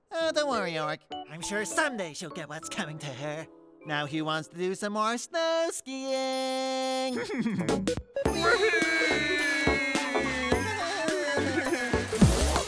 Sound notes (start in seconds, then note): 7.1 chuckles; 10.9 both laughing